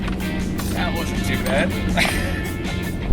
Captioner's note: laughs